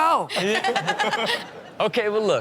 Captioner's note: Chanel laughs